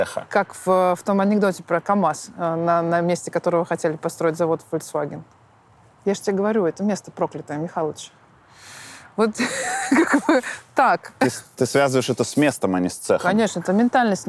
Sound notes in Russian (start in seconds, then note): 9.4 смеется